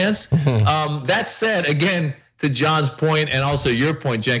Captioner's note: laugh